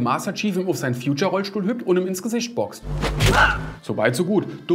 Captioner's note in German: Schmerzvoller Laut